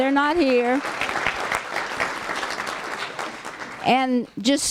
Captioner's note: applause